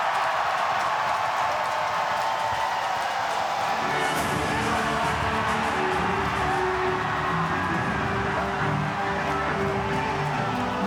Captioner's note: applause